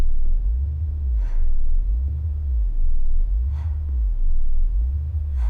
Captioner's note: breathing heavily